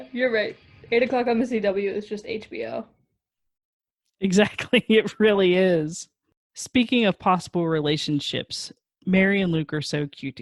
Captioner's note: laughs